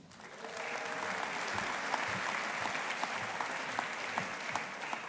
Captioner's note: audience applauding